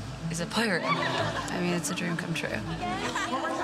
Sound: all giggling

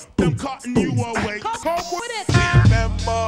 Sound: record scratching

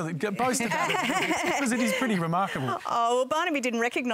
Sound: laughs

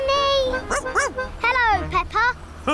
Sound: barks; laughs

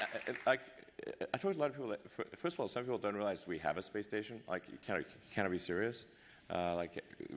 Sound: applause

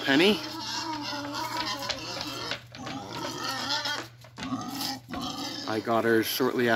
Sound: squealing

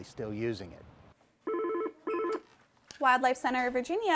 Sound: phone ringing

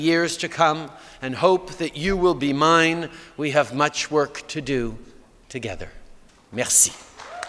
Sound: cheers & Applause

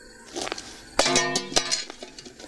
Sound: shovel clangs

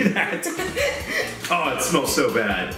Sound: laughs

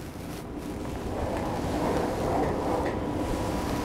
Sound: rustling of curtains

